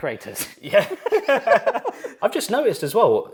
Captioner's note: both laughing